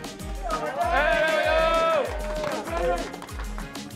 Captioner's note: cheering